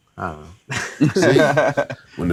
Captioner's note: laughing